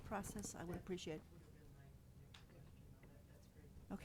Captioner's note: speaking faintly